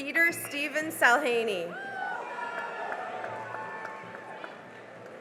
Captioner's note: cheering and applause